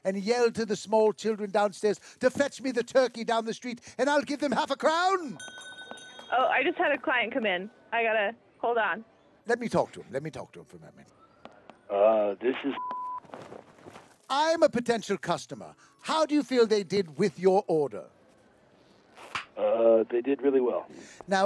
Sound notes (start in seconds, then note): 12.7 beeping